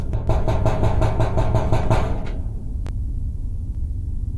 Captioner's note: there's banging on the metal door